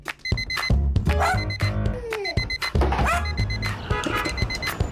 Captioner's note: alarm beep; dog barking; car honking